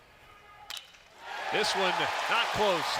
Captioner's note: ball hitting bat